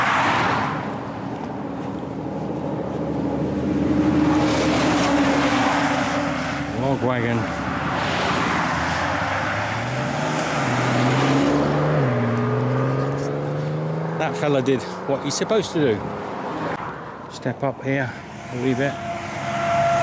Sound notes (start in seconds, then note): 0.0 passing Traffic; 8.6 passing Traffic